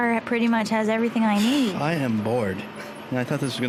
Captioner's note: sighing